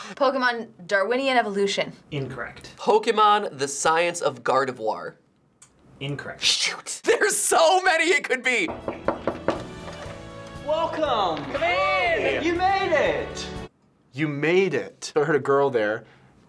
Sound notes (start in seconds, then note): 8.6 knocking